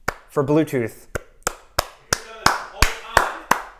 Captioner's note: hands clapping